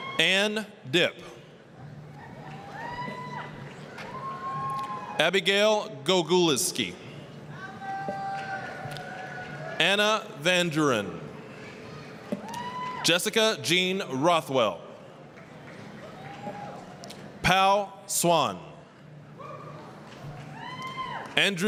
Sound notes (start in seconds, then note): 0.0 applause, cheering; 2.2 applause, cheering; 7.8 applause, cheering; 12.5 applause, cheering; 15.3 applause; 20.3 applause, cheering